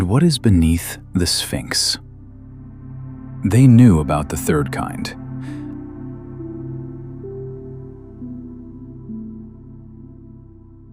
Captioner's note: breath